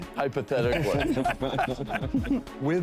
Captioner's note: laughing